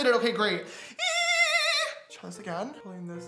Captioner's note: squealing